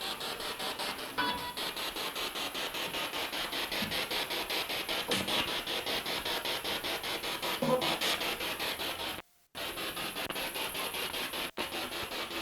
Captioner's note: sound of the Spirit Box in the background